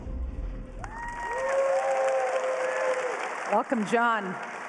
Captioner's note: applause